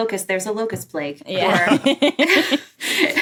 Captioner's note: group laughing